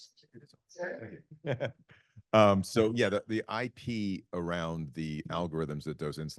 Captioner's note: laughs